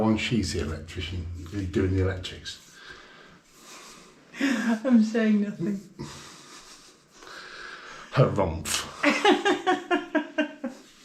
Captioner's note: laughter